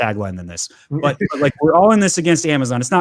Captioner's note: laughs